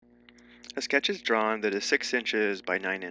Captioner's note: voiceover